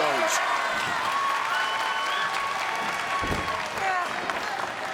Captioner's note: crowd cheering